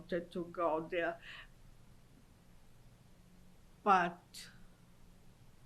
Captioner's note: pauses for 3 seconds